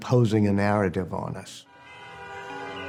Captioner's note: car horns blaring